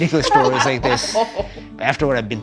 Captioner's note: laughter